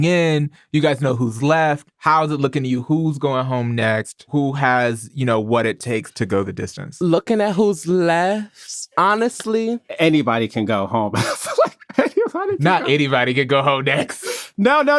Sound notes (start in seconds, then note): 11.1 laughs